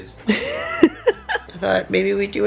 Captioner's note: laughing